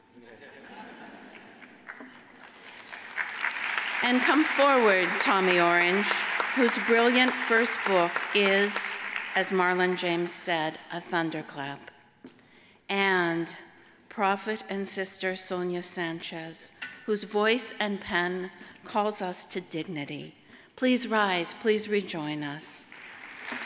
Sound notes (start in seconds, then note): 0.4 audience chuckles; 2.9 audience applauds; 22.9 audience applauds